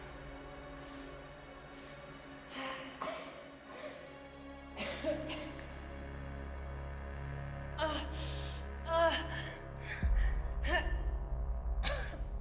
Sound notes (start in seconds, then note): 0.9 tense music continues; 4.7 Maeve coughing; 7.8 Maeve groaning in pain